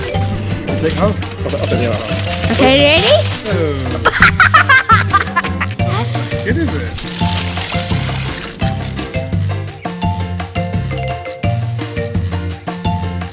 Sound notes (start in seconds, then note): 3.5 laughing